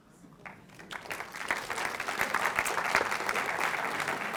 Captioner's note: audience applauding